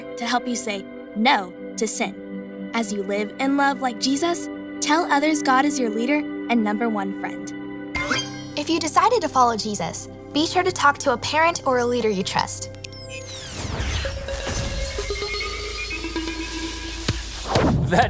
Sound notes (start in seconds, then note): 8.0 electronic beep; 13.0 loud whooshing; 14.5 upbeat cheerful music